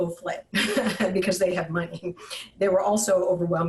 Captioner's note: chuckles